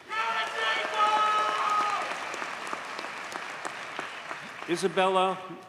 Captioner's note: audience cheers and applauds